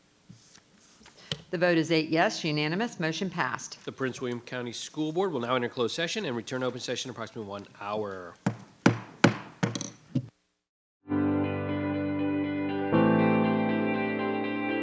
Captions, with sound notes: - The vote is eight yes, unanimous, motion passed. - The Prince William County School Board will now enter closed session and return open session in approximately one hour. (gavel bangs) (gentle music plays)